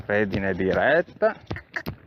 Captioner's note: cluck